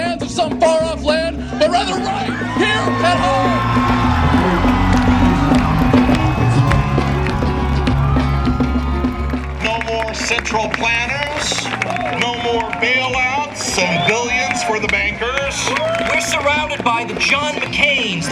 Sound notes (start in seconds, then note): 1.1 cheers